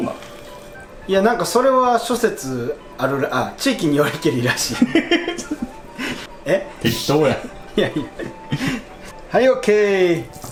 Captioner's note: haha